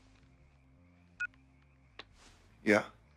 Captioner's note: cell phone beeps